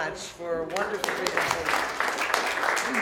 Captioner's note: applause